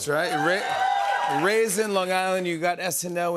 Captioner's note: cheers and applause